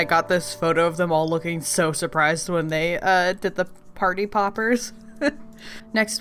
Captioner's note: laughs